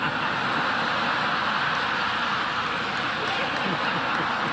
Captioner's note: audience laughing